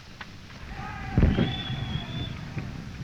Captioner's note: soldiers shouting